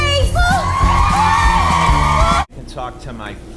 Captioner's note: cheering